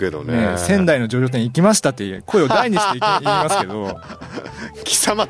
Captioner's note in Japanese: 笑い